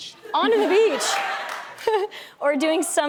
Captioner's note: laughs; audience claps